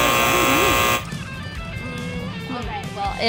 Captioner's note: buzzer beeps